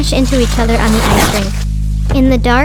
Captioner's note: ice skates swooshing